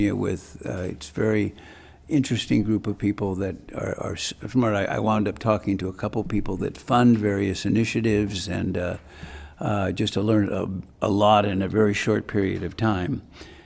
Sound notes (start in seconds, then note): none